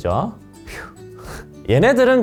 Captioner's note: phew